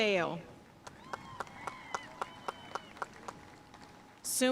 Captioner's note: audience cheering and applauding